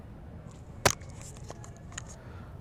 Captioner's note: camera rustling sounds